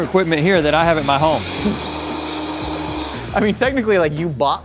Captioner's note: Vitamix whirs